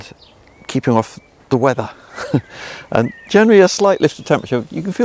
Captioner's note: laughing